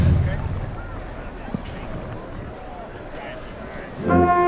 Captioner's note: chatter